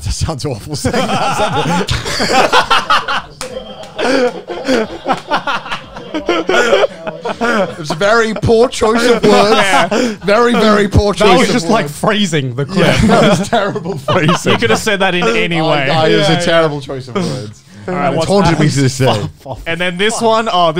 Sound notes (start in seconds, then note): 2.0 everyone laughs